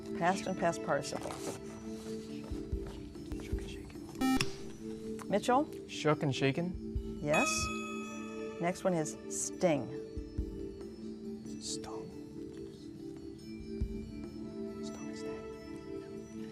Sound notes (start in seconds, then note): 2.4 whispering; 4.2 buzzer; 13.5 whispering